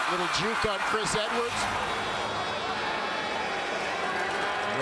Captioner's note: crowd Noise